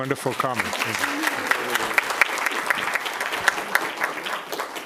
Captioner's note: applause